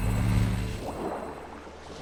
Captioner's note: none